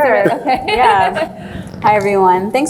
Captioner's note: laughs